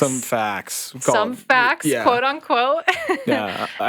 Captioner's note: chuckles